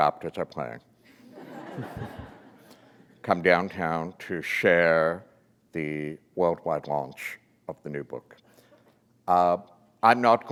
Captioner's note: laughter